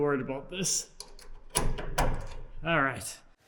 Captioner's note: metals clinking